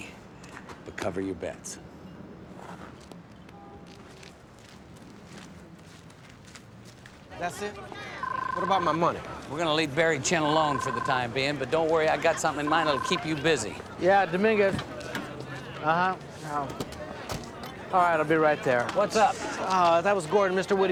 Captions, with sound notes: - Well, it may be, but cover your bets. - That's it? What about my money? (cell phone ringing) - We're going to leave Barry Chen alone for the time being, but don't worry. I got something in mind that will keep you busy. - Yeah, Dominguez. Uh-huh. All right. I'll be right there. - What's up?